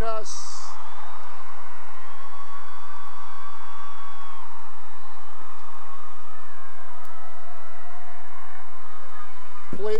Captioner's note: cheering and applause